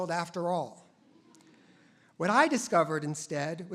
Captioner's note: audience laughs